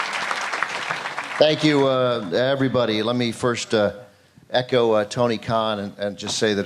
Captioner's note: applause